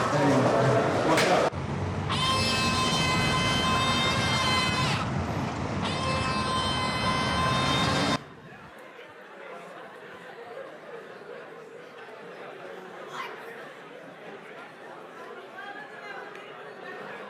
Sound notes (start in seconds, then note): 2.1 screaming